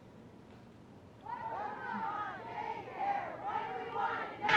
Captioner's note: chanting